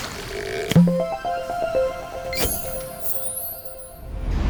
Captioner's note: playful chime